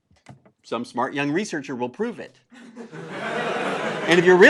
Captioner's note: laugh